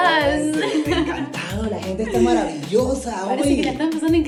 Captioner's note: laughing